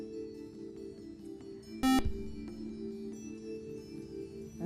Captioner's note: buzzer